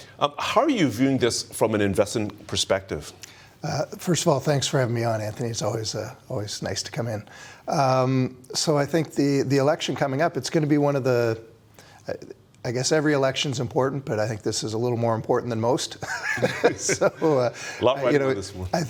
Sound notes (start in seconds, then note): 16.0 laughs